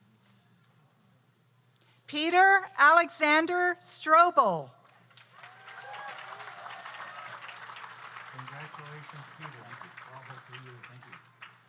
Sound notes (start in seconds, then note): 5.1 audience applauds; 5.3 audience cheers